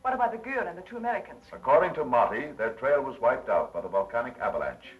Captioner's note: none